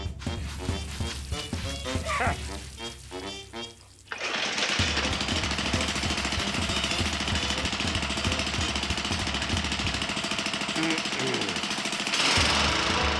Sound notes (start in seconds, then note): 3.7 lawnmower engine starts